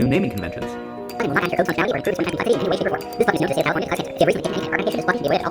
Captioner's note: sped up voiceover